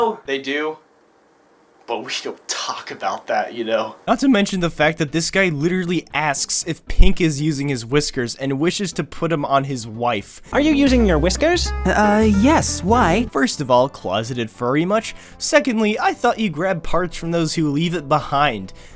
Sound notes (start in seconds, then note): none